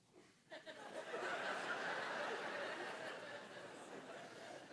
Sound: congregation laughing

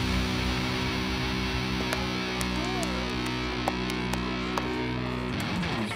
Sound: crowd murmuring; scattered applause

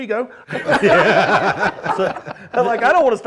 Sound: panelists laughing

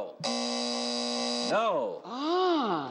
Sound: buzzing

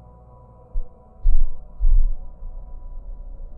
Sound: echoey sound persists

